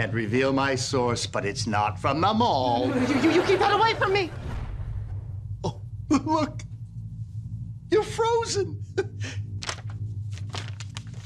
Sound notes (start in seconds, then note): 3.3 stutters; 8.9 chuckles